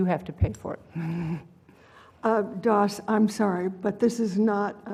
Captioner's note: laugh